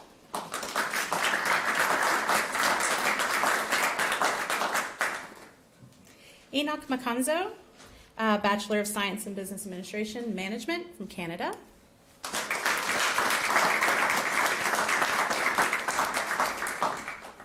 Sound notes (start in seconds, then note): 2.9 applause